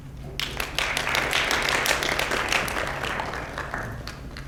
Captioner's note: audience claps